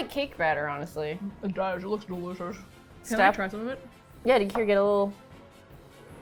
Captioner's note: mouth full